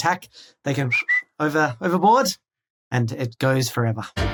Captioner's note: whistle